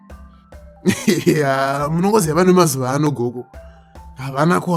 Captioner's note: laughs